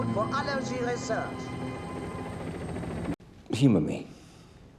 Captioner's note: helicopter noise